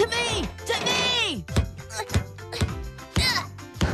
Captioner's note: ball Thumping